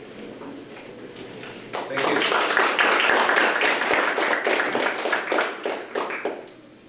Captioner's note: audience applause